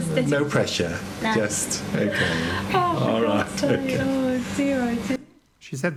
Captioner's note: Rhiannon's Mum laughing